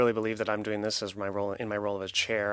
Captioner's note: speaking French